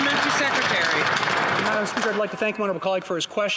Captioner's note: some Applause